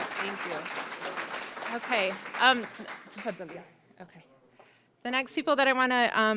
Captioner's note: applause; speaking Arabic